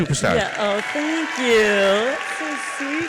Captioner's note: uadience applauds